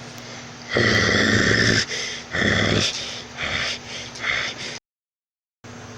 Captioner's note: Sombra Growling